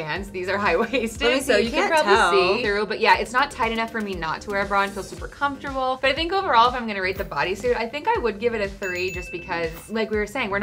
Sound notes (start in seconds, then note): 8.8 bell ringing